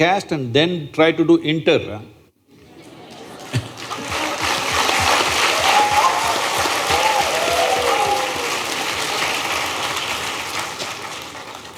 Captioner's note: applause/Cheers